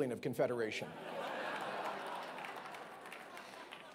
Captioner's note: laughing